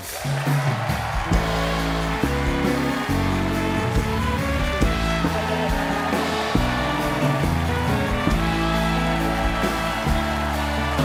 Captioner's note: applause